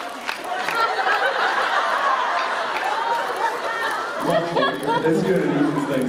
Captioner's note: laughter